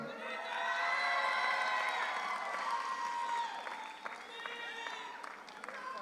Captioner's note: audience cheers; audience applauds